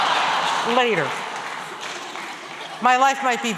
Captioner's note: laughter